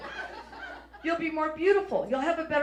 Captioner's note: audience laughs